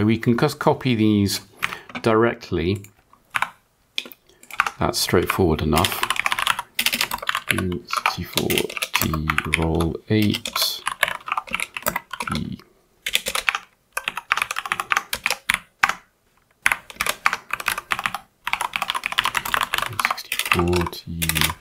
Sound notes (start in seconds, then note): 14.6 typing